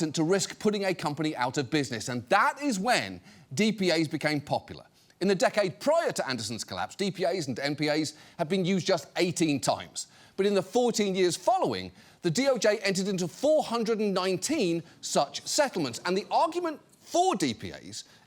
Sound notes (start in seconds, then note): none